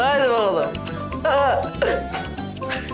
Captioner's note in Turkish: Gülme sesi